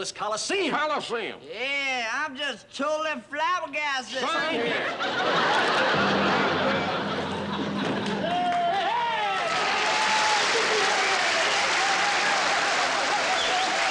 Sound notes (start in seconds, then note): 4.3 laughter; 7.6 cheering